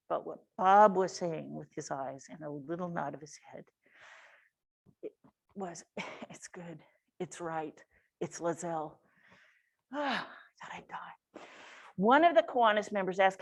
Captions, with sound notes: But what Bob was saying with his eyes and a little nod of his head, it was, "It's good, it's right, it's Lazzell," (sighs) thought I'd die. One of the Kiwanis members asked,